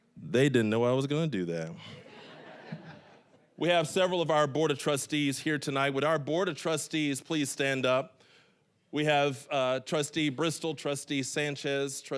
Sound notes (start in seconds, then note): 1.8 audience laughing